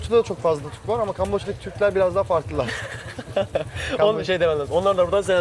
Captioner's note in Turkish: kahkaha